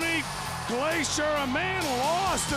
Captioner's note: crowd cheering